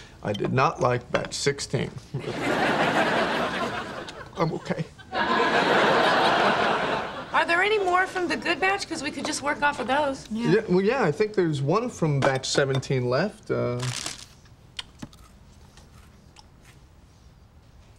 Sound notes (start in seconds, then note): 2.2 audience laughing; 13.8 paper crinkles